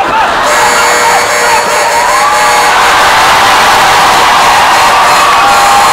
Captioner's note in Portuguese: campainha e aplausos